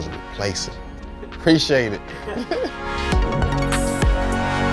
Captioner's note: laughing